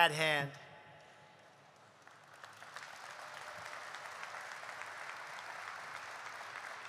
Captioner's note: applause